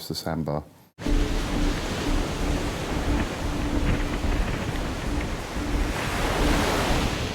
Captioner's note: tense music; waves crashing